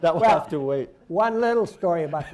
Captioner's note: laughter